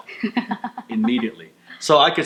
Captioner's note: laughs